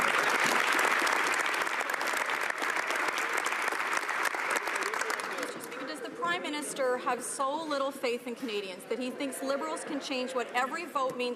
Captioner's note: some Applause